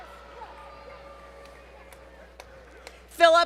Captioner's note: applause